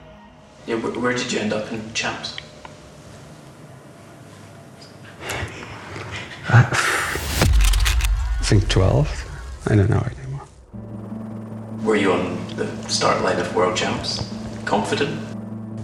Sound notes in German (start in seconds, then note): 6.8 seufzt